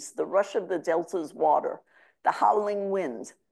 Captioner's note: none